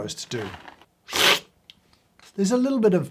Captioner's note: slurping